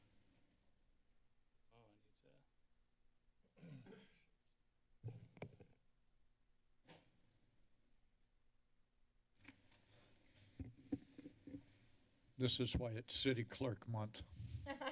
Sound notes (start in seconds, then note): 0.0 silence; 3.5 clears throat; 4.6 silence